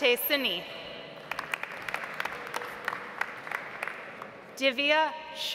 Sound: audience applauds

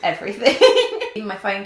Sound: laughs

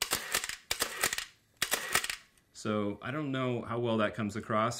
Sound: mechanical clicking

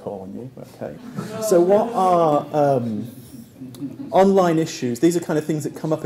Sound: laugh

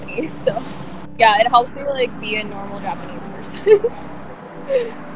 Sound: laughs

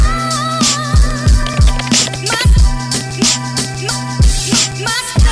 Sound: keystrokes tapping

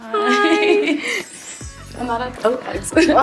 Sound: magical chiming

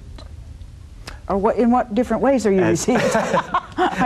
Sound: laughs

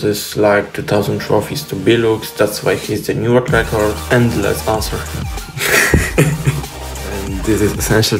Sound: laughing

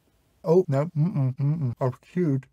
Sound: increasingly panicked mm-mms

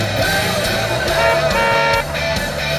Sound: horn honking

